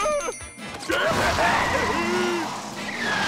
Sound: laughs maniacally

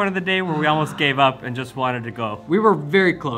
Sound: exhales deeply

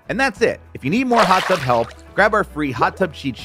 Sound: water sloshes

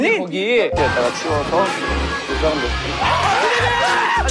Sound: the person who did it is also laughing

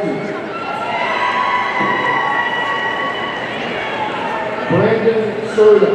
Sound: audience cheering

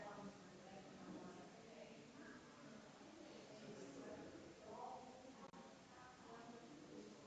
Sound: people chattering distantly continues

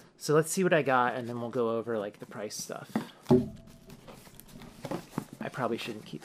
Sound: bonk

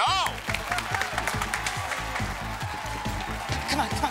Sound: cheers and applause

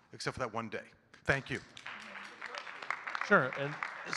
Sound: audience clapping

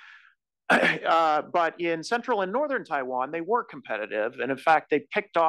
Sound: cough

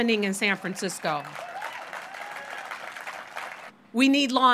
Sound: audience applauds

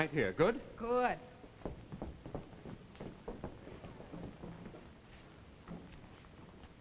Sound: footsteps

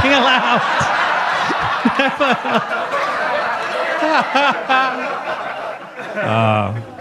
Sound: audience laughing; Gary chuckling

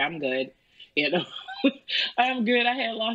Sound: laughs

